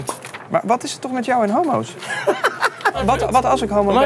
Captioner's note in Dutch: lacht